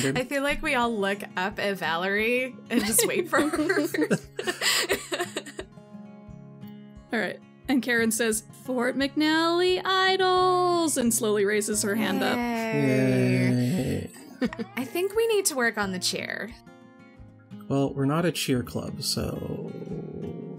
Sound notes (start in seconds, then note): 4.5 all laugh; 14.2 laughs